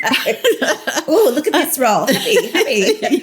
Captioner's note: laughter